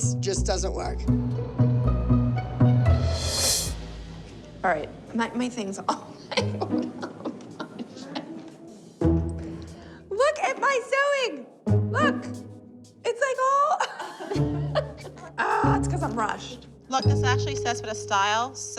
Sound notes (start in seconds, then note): 5.8 laughs; 13.7 laughter